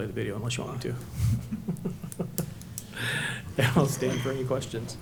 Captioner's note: laughs